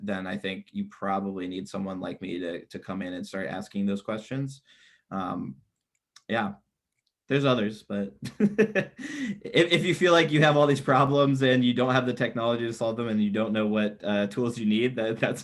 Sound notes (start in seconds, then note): 8.3 laughs